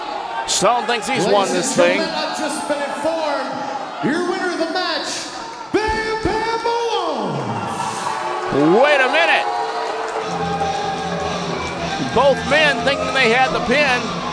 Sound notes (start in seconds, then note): 6.9 crowd boos; 10.2 rock music plays